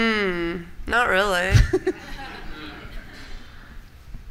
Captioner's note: laughter